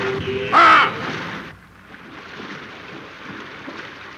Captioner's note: man yelling